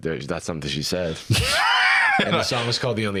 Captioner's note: laughs